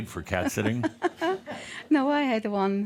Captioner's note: some chuckles